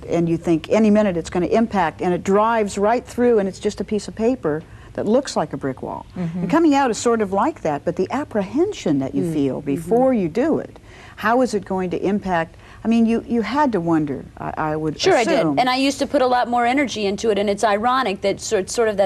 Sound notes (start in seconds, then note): none